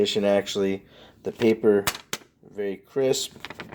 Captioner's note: paper cracks